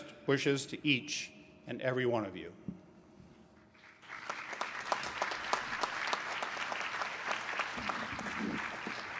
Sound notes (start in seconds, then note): 3.7 applause